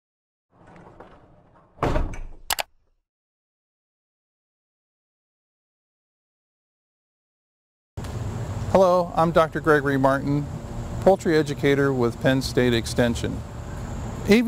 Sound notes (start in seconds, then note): 0.6 thudding; 2.5 clicking